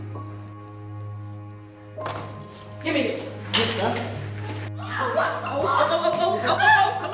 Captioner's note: people start to yell and scream